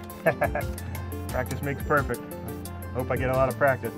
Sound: laughs

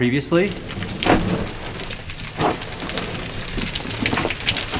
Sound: rocks falling

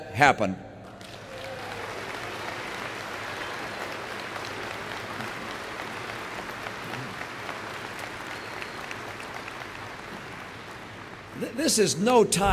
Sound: applause

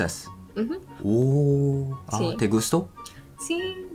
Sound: Spanish

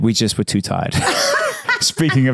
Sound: Candace laughs

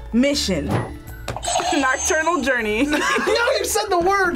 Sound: buzzer rings

